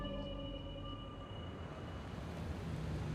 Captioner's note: car approaching